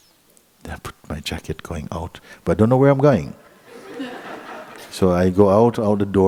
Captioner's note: laughter